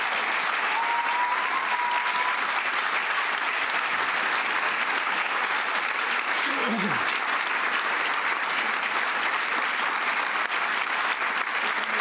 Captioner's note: cheers and applause